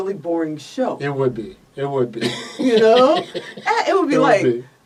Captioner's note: laughs